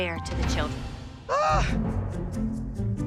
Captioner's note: Abby Lee groans